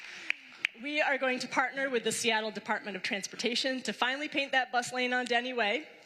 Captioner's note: applause